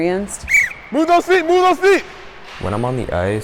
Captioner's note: whistle blows